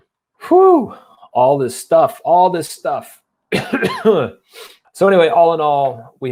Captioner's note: coughs